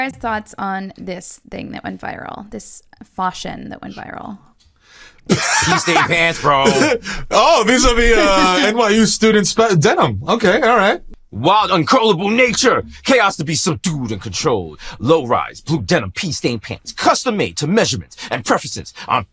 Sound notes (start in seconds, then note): 5.2 laughing